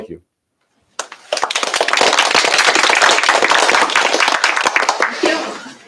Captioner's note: applause